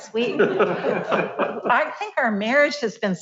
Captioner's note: laughs